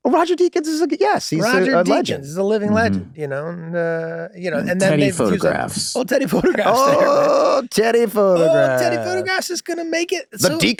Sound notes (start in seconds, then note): 6.2 Charlie laughing amusingly